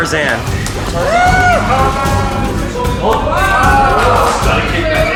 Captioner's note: crowd yelling